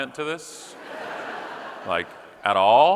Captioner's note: audience laughing